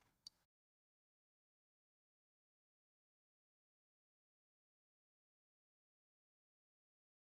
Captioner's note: silence